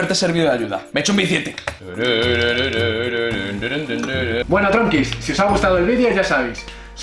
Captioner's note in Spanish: hablando